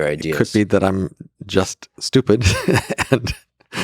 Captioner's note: laughs